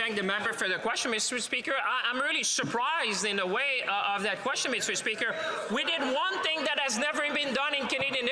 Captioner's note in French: voix de l'interprète